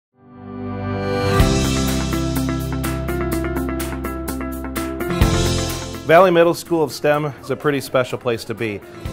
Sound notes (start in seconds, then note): 0.0 happy music; 5.8 voiceover